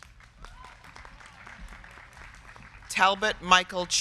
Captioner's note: crowd clapping